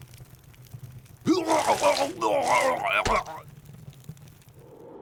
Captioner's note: more epic puking noises